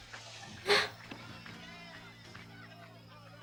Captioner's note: gasps